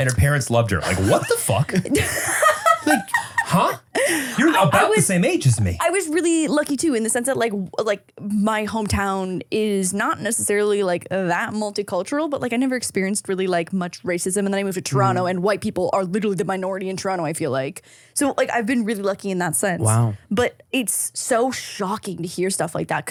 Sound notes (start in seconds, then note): 2.6 laughs